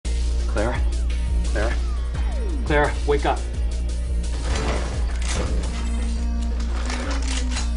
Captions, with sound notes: Clara? Clara, wake up. [door opens] [guns cock]